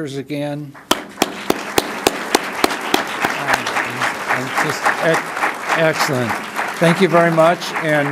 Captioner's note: applause